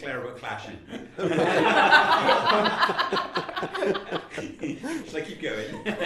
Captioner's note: laughter